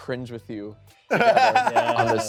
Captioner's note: laughing